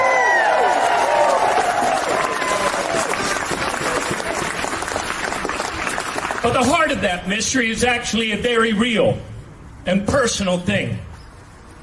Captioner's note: cheering